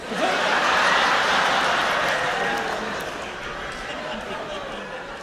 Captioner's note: laughter